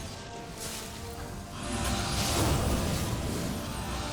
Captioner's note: thrumming